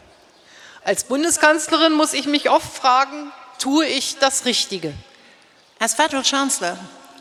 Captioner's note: speaking in German